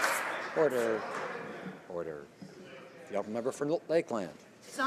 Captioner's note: some Applause